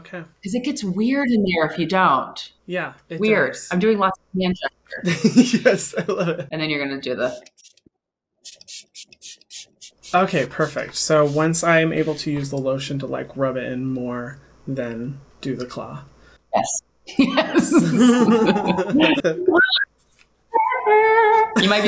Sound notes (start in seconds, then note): 5.1 laughs; 8.4 bottle spraying; 17.1 laughter; 20.1 sings